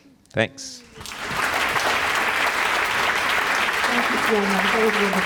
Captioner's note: applause